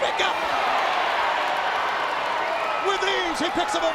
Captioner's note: crowd exclaiming